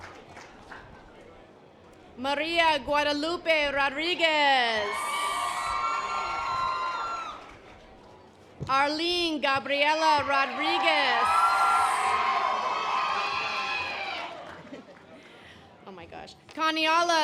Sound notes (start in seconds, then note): 11.2 audience applause